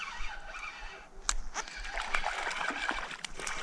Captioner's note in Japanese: 魚が暴れる音